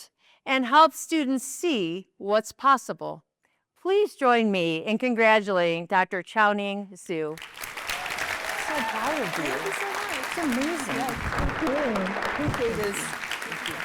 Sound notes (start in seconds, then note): 7.3 applause